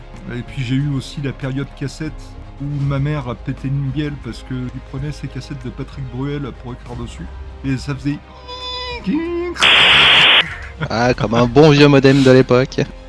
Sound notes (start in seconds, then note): 9.6 binary playback noises